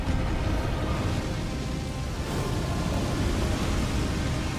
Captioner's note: fire whooshing